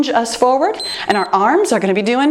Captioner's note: timer beeps